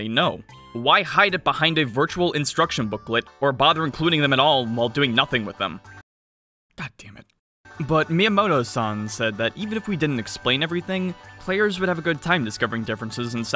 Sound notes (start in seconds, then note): 7.3 whisper